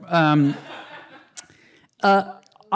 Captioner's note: audience laughs